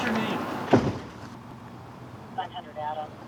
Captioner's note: door closes